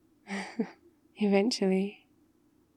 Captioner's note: laughs